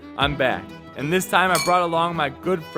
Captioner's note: glasses clinking